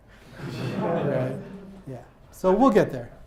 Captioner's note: audience laughs